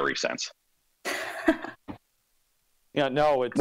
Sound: laughs

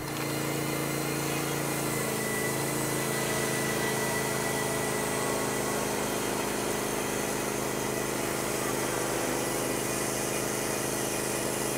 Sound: saw milling

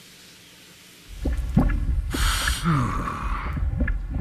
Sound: sighs

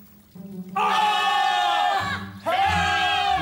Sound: screaming!

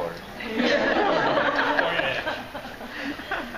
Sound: laughing

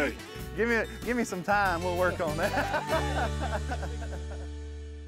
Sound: laughs

